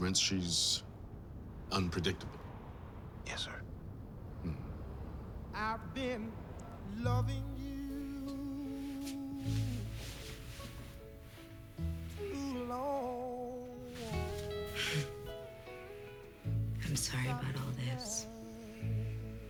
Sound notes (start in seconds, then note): 14.7 chuckles